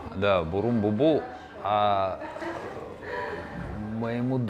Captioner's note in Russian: смех за кадром